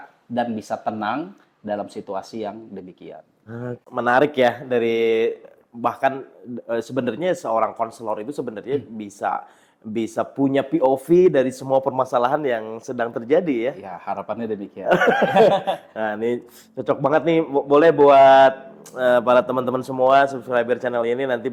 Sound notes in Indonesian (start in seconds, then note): 14.9 tertawa